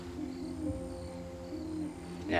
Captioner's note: crickets chirping; owl hooting